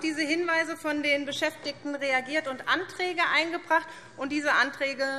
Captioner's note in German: none